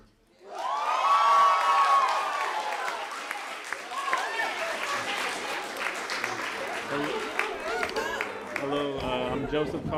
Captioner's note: applause